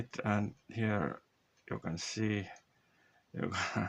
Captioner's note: heh